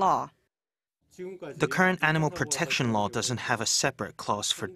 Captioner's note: Korean